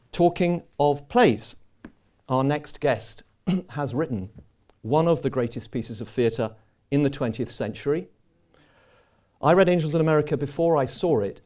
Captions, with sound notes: Talking of plays, our next guest [clears throat] has written one of the greatest pieces of theater in the 20th century. I read Angels in America before I saw it